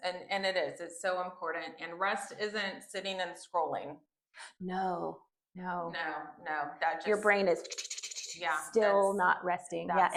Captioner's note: spinning noises